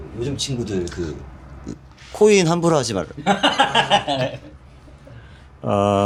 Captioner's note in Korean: 웃음